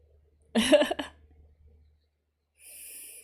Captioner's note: laughs